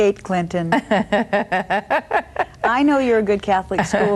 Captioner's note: laughs